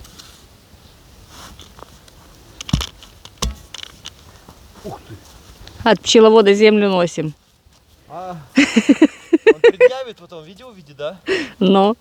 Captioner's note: laugh